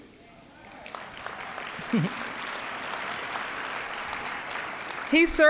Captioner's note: applause